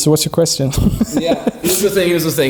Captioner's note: laughing